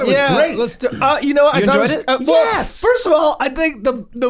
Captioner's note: all murmuring